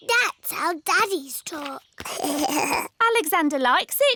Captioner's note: alexander giggles